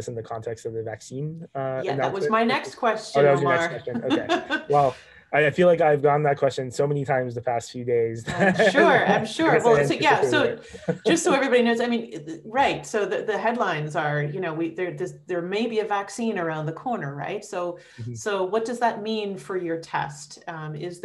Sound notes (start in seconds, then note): 3.1 chuckles; 8.0 laughing